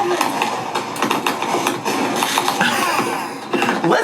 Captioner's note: fireworks crackle